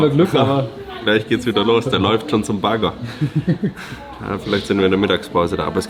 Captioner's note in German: gelächter